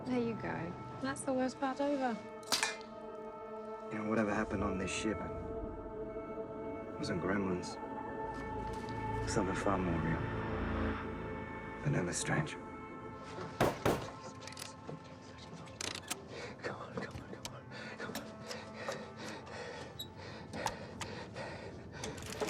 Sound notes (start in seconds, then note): 2.4 bullet clinking; 13.6 Faraday's hand banging; 15.4 Faraday speaking faintly; 18.2 Faraday panting; 22.2 handle rattling